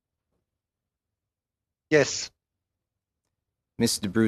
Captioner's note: speaking French